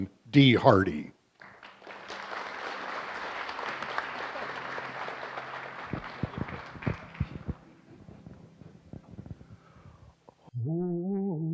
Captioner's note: applause